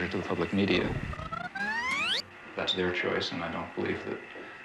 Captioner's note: tape recorder squeaking